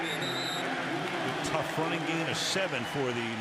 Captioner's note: whistle